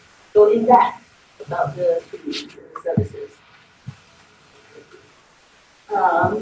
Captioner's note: audio warps